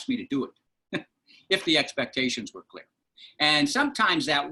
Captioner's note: laughter